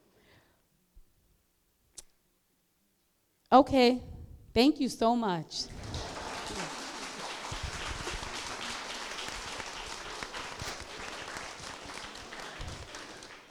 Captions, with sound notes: Okay, thank you so much. (applause)